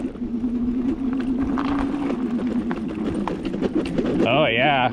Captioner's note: electric motor whirs